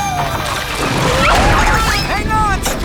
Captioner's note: screaming